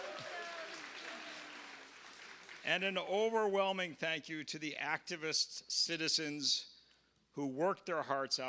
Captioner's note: applause